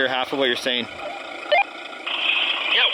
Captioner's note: radio beeps